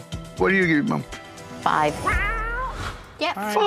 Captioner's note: cat meowing